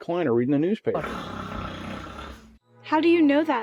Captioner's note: snoring